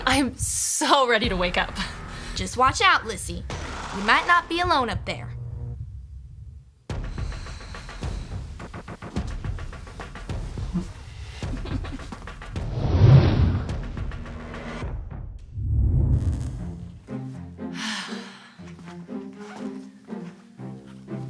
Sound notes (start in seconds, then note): 7.6 ominous music; 11.5 whimpers; 18.2 orchestral music